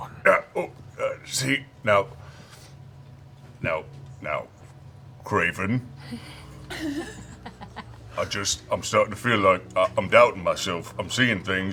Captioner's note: grunts